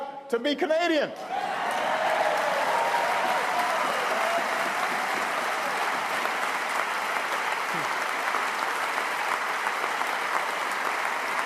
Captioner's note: applause